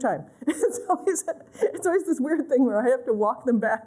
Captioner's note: laughter